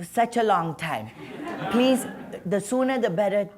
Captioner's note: laughter